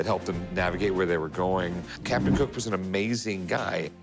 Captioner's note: none